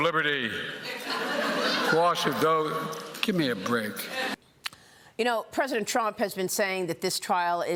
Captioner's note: laughter